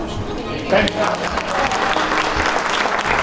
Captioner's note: applause